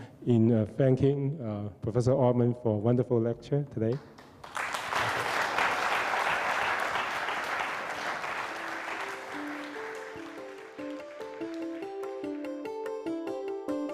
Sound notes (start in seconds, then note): 4.2 audience applauds; 7.7 bright music